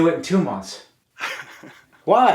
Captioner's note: Kenny laughs